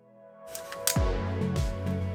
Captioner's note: click